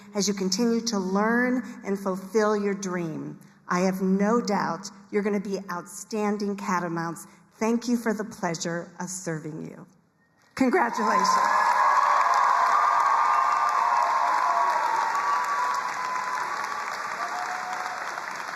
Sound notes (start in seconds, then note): 12.3 crowd cheering and applauding